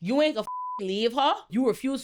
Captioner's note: beep